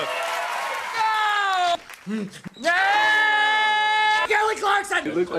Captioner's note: cheers and applause; screaming